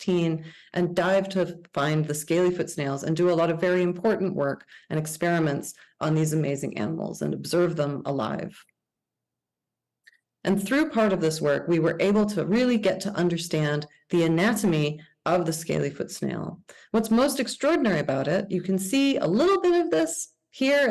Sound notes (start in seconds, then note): none